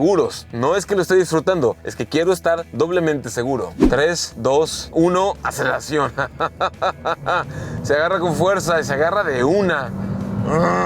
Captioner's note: laughter